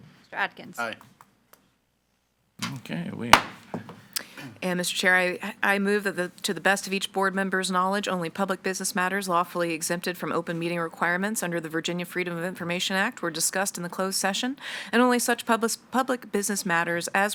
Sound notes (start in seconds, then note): 3.3 gavel thudding